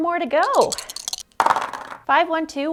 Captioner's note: dice clunking